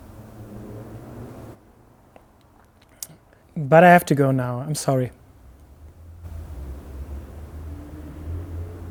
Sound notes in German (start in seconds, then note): 0.3 Leiser Straßenlärm; 1.7 Geräuschvolles Schlucken